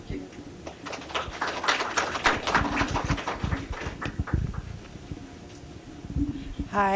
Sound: applause

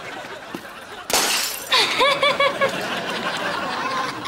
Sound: glass shattering, laughing

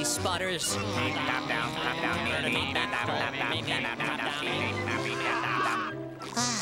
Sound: chattering

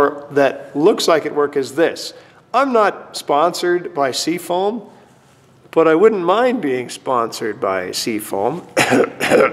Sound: cough

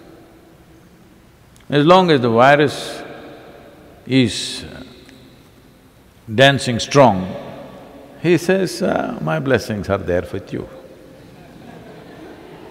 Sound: laughter

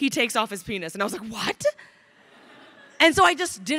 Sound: crowd laughing

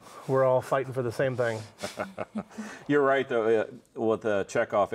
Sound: laughs

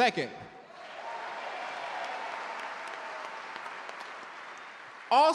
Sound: audience cheer and clap

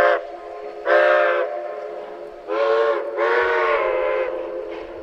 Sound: 487 then 484 two long whistles

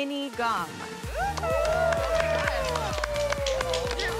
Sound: cheering

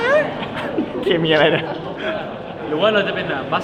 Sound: laughs

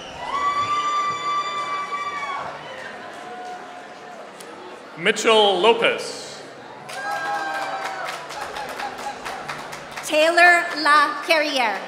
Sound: applause

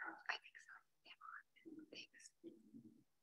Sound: whispers

